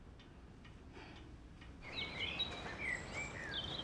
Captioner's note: birds singing